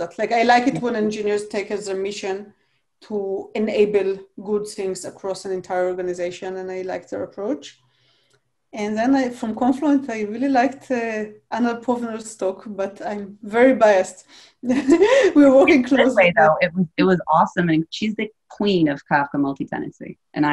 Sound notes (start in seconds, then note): 12.0 speaking faintly; 15.7 laughs